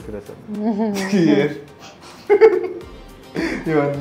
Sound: laughing

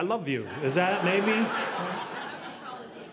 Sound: audience laughing

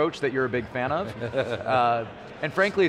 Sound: laughing

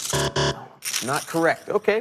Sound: buzzer

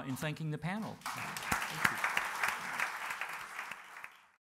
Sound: audience applauds

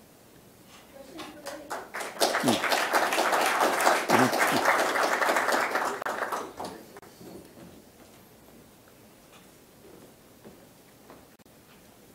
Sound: applause

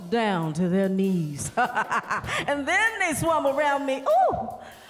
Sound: laughter

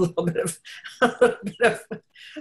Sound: laughs

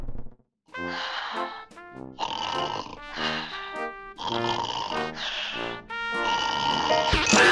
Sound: snoring

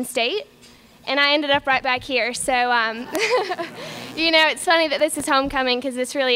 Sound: laughter

